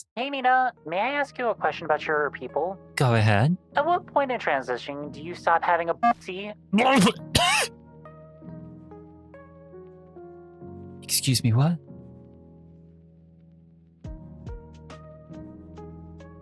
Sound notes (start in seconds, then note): 6.7 coughs